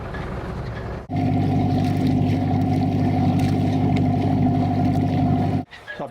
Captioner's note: sound of engine and water bubbling